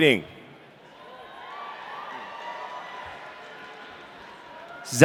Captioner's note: audience cheering